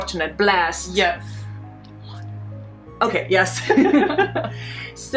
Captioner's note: laughs